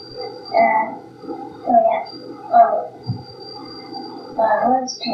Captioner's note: stammers